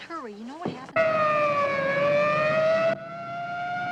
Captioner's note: siren wailing